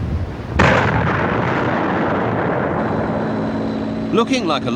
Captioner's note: artillery explode